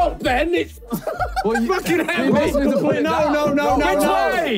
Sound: group laughing

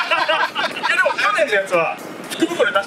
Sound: laughs

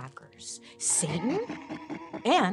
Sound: man laughing evilly

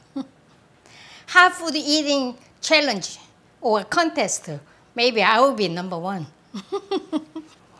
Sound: laughs

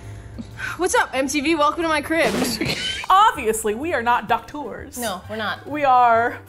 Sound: badum chh; both laugh

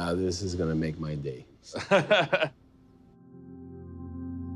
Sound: laughing

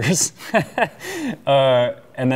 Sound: laughing

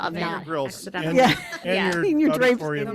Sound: laughs

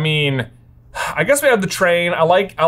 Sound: huffs

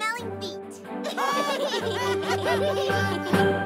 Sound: giggles

